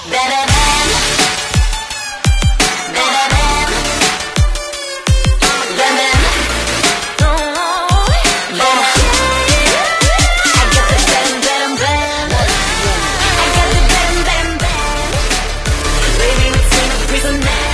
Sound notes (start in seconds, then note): 0.9 electronic music; 3.5 electronic music; 12.1 humming